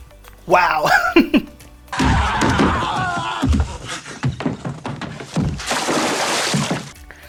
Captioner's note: screaming noise